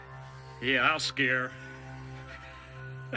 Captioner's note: chuckles